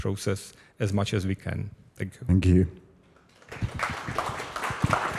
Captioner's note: applause